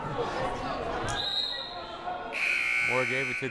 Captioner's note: whistle blaring; buzzer blaring